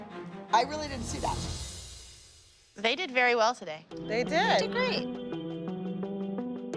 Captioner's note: none